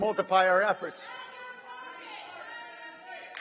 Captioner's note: shouting from audience